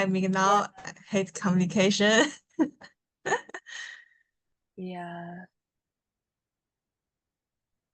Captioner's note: laughs